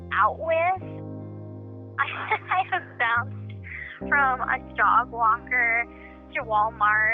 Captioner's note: laughs